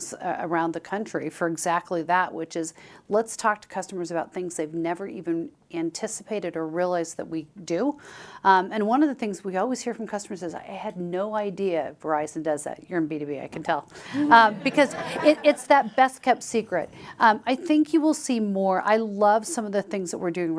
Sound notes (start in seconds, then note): 14.1 chuckles